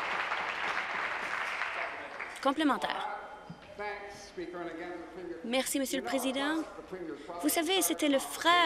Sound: applause

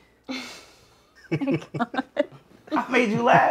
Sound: laughing loudly

